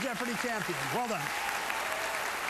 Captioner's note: applause